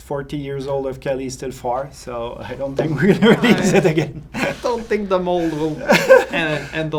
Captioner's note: rire